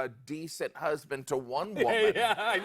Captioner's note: laughter